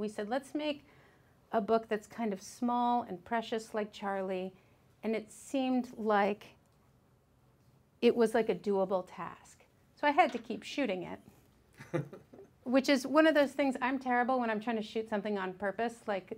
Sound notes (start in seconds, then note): 11.8 man laughs